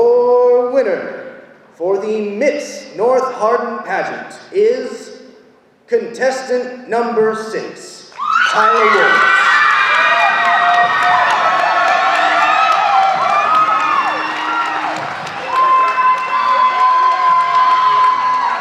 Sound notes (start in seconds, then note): 8.7 audience applauding